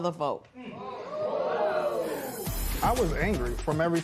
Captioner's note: audience "ohhs"